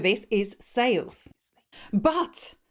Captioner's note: whispering